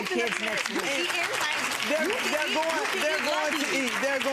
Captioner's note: audience applause drowning out words